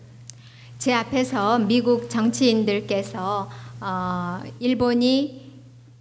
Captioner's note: speaking foreign language